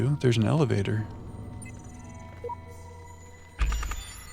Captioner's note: beeping